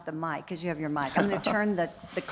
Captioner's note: laughs